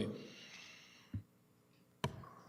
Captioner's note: audio drop